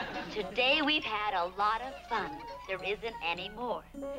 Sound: on TV

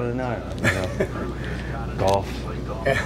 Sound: laughter

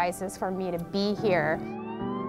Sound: siren wailing

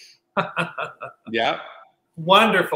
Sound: laughing

